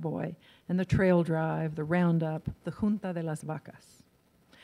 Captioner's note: in foreign language